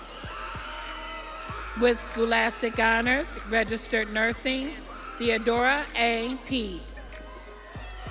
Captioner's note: audience cheering